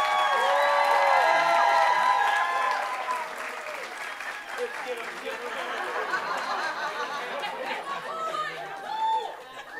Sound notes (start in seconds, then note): 4.5 people chattering indistinctly